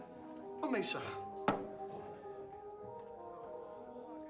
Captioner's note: glass thuds